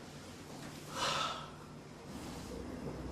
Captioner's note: sighs deeply